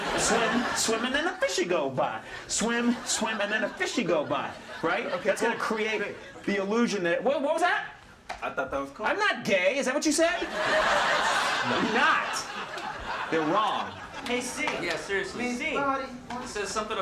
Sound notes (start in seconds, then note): 0.0 audience laughing; 10.4 audience laughing